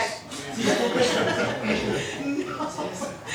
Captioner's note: laughing